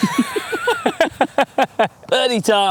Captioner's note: laughing